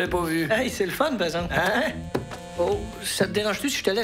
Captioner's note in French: vibration de téléphone